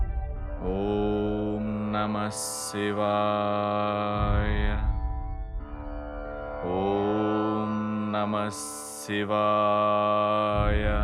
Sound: chanting

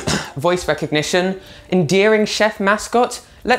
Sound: cough cough

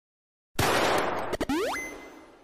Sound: gunshot

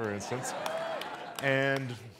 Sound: audience member cheers

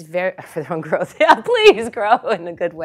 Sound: laugh

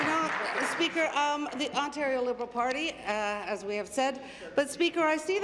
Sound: applause

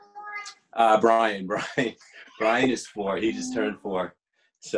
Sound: laughing

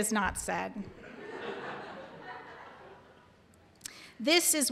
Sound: audience laughing

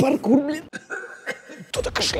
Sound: cough

